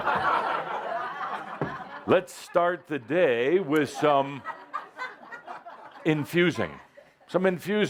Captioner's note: laughter